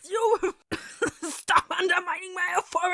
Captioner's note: fire department siren